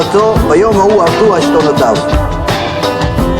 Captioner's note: hebrew